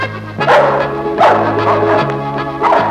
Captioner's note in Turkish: Havlamalar devam ediyor